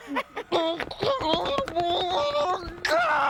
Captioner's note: laughs; sputtering; yells